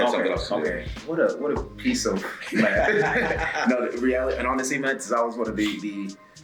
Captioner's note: laugh